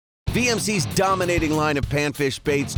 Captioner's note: voiceover